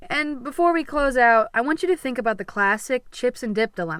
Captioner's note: none